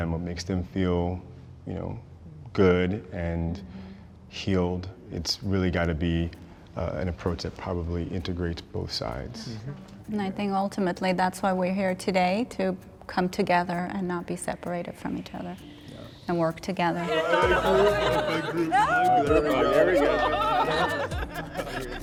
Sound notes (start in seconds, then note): 17.0 cheering